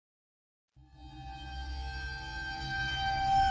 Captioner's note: eerie Sound